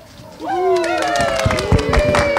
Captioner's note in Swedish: Jubel och applåder